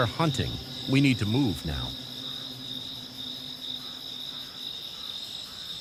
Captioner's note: crickets chirping